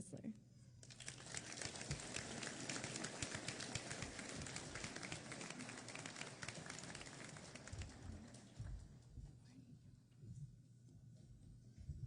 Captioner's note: applause